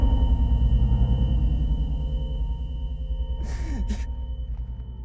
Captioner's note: Mark crying